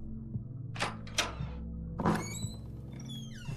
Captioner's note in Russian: звук открывающийся двери